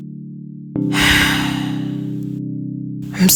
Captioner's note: heavy sigh